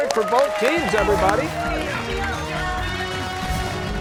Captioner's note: cheers and applause